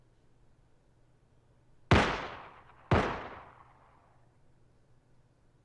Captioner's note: 3 gunshots ring out